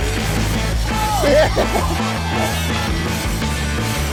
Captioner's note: laughing